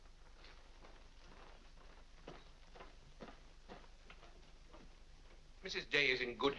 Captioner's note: soft footsteps up stairs